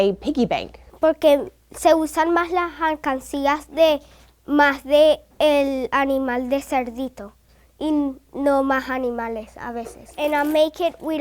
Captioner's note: in Spanish